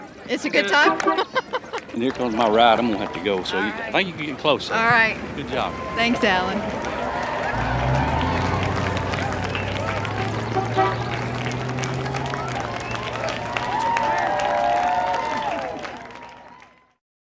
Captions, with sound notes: It's a good time. - And here comes my ride. I'm gonna have to go. So I think you can get closer. - All right - Good job. - Thanks Alan. (crowd clapping) (car honking) (crowd cheering)